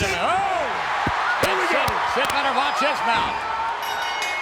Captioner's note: applause